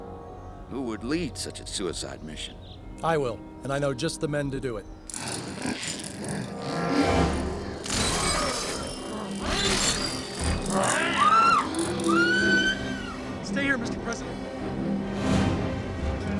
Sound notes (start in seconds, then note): 6.6 growling; 10.7 woman screams